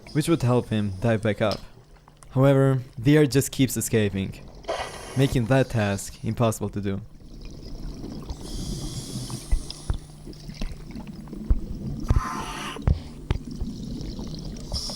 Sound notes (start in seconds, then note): 6.9 water bubbling; 8.0 air hissing; 12.0 air sucking